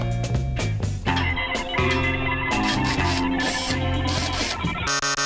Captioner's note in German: elektronische Geräusche